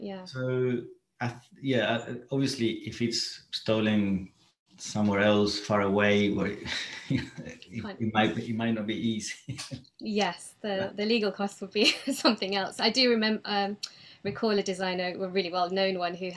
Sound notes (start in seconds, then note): 9.0 laughs